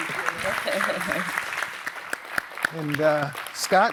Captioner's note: applause